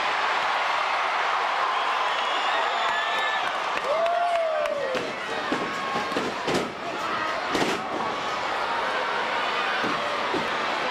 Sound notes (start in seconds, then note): 0.1 crowd cheering; 4.8 crowd chattering; 4.9 stage clattering